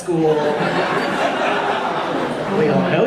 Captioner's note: audience laughing